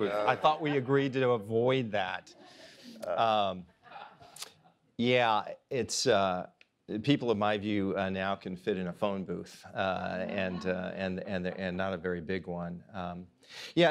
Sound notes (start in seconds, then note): 2.5 audience laughs